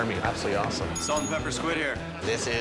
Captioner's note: bell dinging